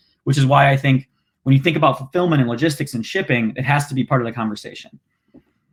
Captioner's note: none